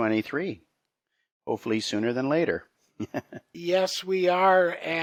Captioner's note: chuckles